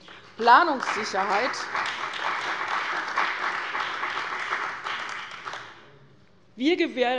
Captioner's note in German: Beifall bei der CDU und dem BÜNDNIS 90/DIE GRÜNEN